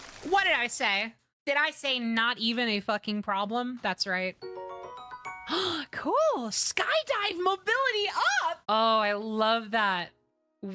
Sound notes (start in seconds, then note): 5.4 gasp